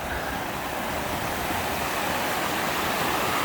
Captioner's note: loud Water Spilling Noise